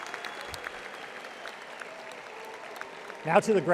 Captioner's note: audience applauding